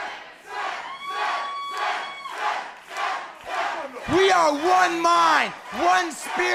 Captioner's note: crowd cheering